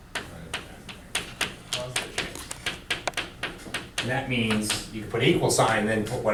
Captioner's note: chalk clicking on board